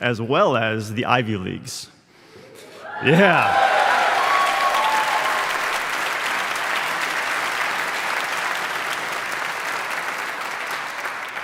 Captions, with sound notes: as well as the Ivy Leagues. (audience cheering) Yeah! (audience applauding)